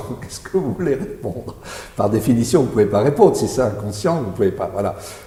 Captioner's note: laughs